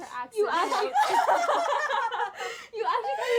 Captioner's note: laughter